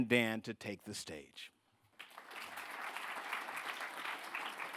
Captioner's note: audience applause